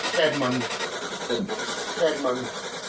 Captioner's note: strange voice from SB-7